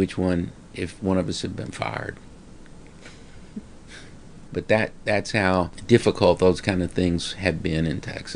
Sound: laughs

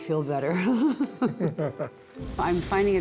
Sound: laughter

